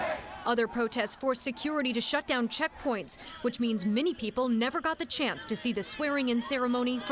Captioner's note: chanting